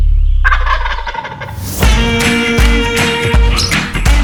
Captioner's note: turkey gobble